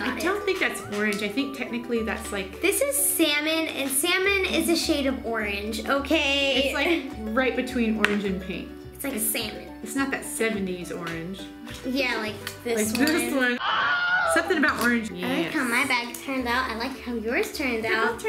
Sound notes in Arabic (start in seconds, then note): 13.6 صراخ ضجيج; 15.2 يتمتم